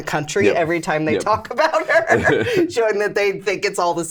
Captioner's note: laughs